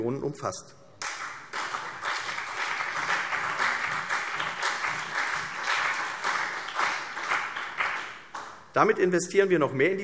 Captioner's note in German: Beifall CDU und BÜNDNIS 90/DIE GRÜNEN